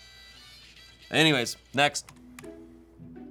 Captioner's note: key clacking; soft music